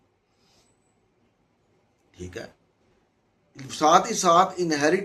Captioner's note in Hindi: नाक से की जाने वाली आवाज़